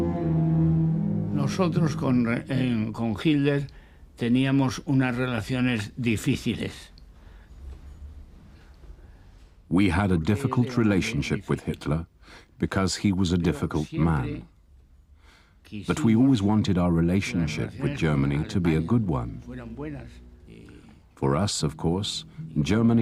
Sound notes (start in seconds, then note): 12.0 speaking foreign language